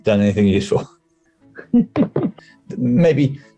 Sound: giggling

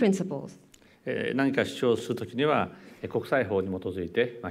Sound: speaking japanese

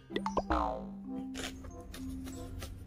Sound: laughs

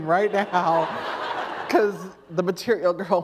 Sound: laughter

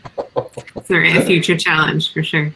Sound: laughs

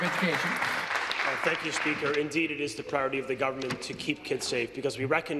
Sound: applause

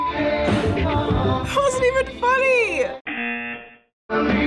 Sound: buzzer

